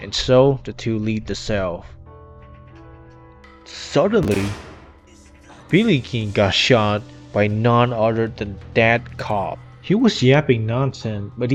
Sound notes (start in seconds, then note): 4.2 gun fired